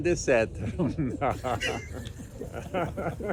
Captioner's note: laughter